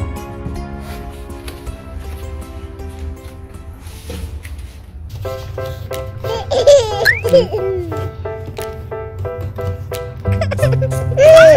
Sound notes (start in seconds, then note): 6.3 baby sounds